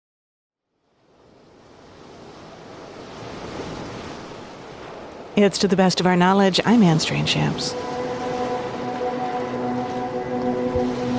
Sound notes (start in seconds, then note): 1.6 gentle waves crashing; 8.4 gentle music